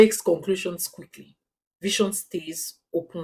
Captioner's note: paause